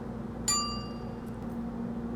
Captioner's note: oven timer dings